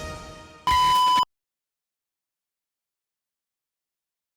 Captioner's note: mechanical beep